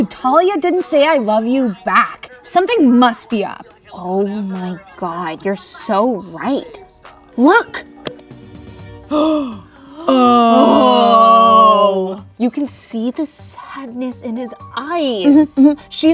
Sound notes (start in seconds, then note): 10.0 both grunting